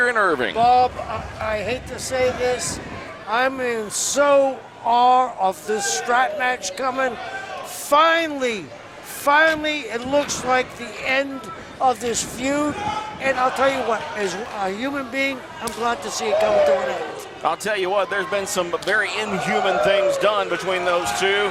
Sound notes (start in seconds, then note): 13.2 crowd yelling; 15.6 slap